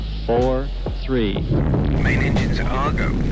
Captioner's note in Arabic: المحركات تزدهر